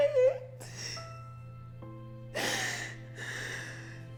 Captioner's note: sobbing